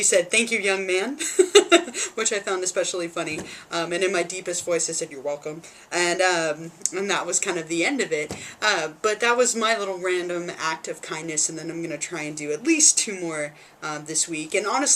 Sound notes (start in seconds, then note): 1.2 laughs